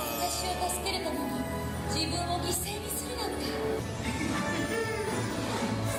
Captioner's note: Elsa speaks Japanese; joyful music